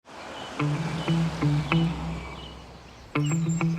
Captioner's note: gentle birdsong; quirky music